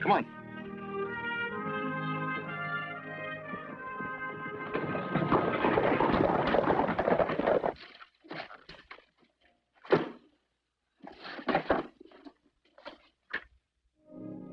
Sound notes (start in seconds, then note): 5.5 horses trotting